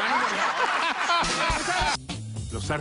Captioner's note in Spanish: Risas